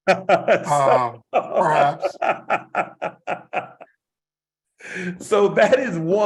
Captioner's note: laugh